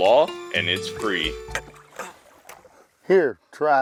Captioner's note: tired grunting